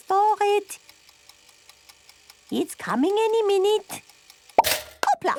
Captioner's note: toaster ticking; pops